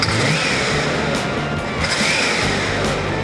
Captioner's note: car engine revving